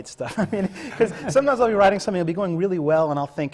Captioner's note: laughs